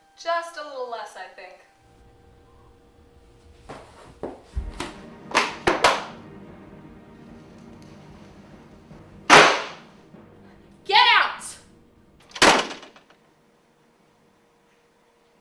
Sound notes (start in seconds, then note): 5.2 box hitting wall; 8.9 door slamming; 13.6 sad music